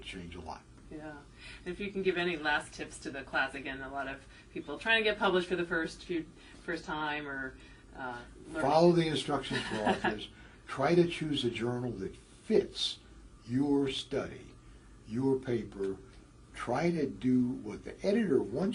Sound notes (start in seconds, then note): 9.5 laugh